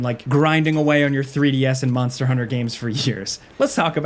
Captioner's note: laughing